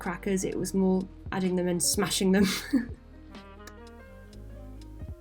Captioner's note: chuckles